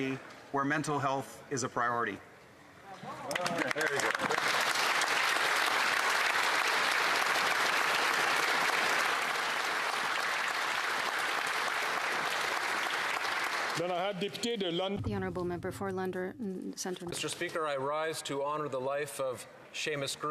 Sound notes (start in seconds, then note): 6.7 some Applause